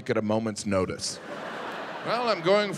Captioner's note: audience laughing